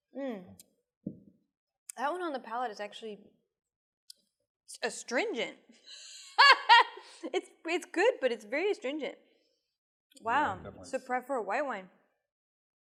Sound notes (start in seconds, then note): 5.8 laughs